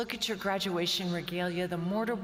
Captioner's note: none